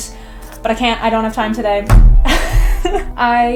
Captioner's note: laughs